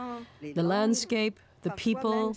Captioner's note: speaking French